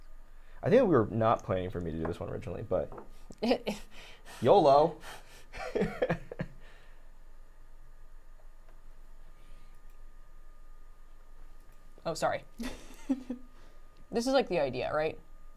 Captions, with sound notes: I think we're not planning for me to do this one originally but. (laughs) - Oh, sorry, this is like the idea, right?